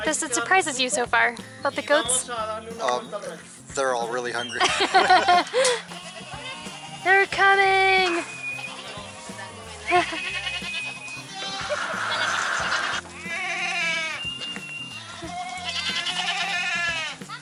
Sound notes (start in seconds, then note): 4.4 laughter